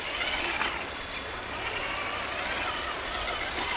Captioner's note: engine roaring